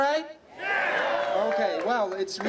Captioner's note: applause